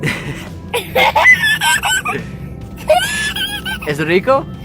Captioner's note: laughing